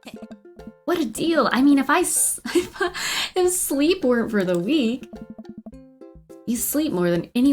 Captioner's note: laughs